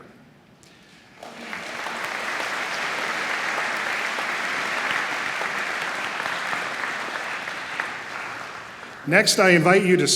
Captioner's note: applause